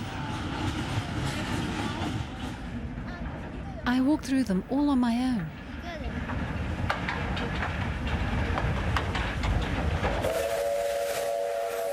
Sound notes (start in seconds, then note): 0.1 train engine revving; 6.4 horn hooting; 7.5 train engine revving